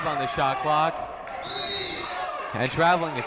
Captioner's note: whistle tweeting